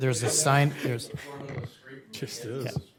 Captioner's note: laughter